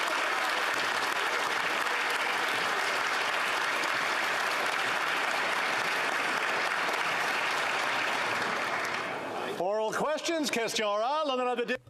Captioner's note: applause